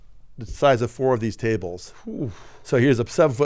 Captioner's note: exclaims